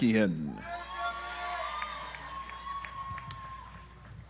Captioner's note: audience applauds